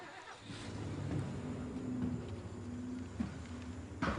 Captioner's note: trunk engine turns over